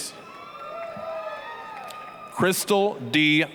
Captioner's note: applause, cheering